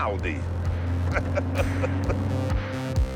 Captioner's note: chuckles